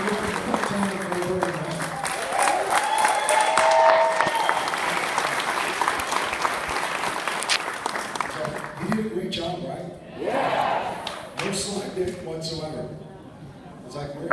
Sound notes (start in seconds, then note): 2.4 cheering and clapping; 10.4 crowd